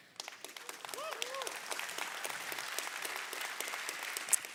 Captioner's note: audience clapping